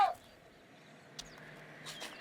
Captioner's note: barks